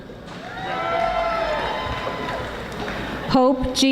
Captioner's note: audience applauding